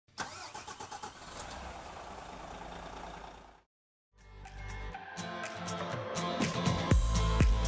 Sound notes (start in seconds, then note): 0.2 engine revving; 4.2 upbeat music